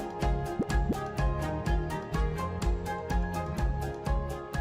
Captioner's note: graphics popping